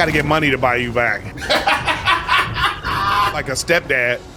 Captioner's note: laughing